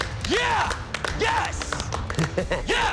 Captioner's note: chuckles